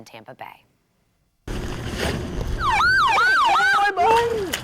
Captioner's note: siren wailing